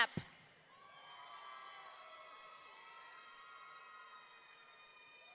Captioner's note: audience cheering